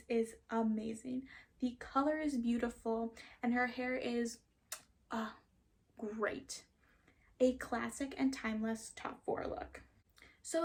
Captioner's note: chef’s kiss